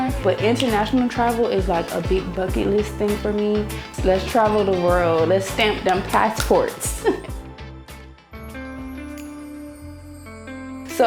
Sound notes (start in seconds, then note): 6.9 laughs; 7.7 lively music; 8.5 pensive music